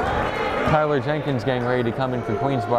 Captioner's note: yelling